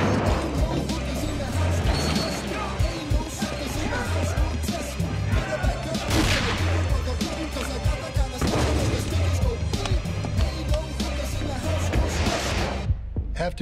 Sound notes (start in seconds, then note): 6.2 gunshot; 8.6 thud